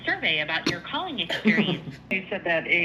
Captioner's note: laughs